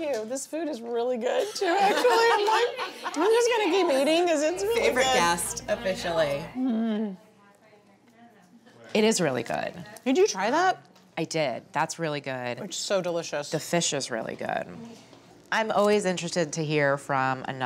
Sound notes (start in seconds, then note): 1.5 laughing